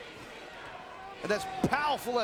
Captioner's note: crowd chanting